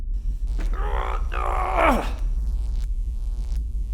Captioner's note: groaning